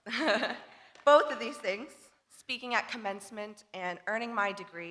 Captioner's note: laughs